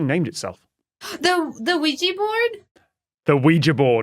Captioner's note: gasp